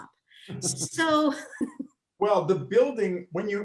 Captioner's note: laughs